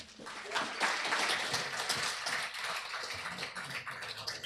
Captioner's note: applause